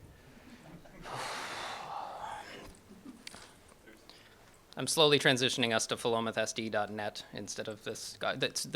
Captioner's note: sighs